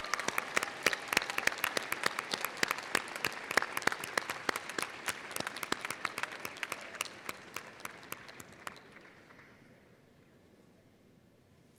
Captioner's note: applause and cheers